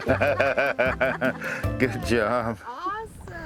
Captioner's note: laughing